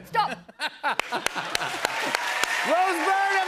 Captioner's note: cheers and applause